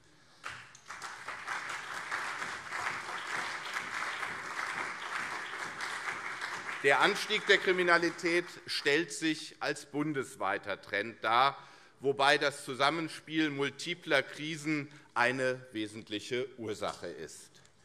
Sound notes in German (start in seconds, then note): 0.4 Beifall CDU und SPD